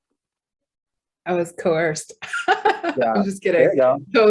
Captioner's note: laughs